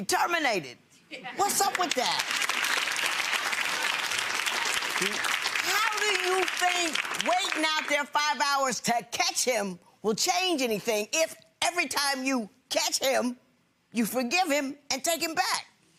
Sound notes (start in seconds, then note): 1.4 audience clapping